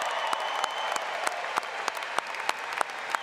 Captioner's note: applause